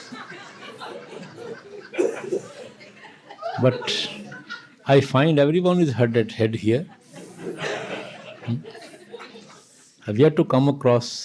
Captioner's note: laughter